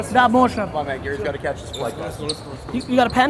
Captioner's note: speaking foreign language